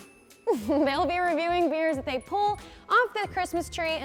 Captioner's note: giggles